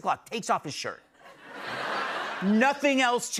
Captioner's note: laughter